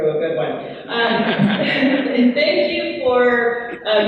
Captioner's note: laughing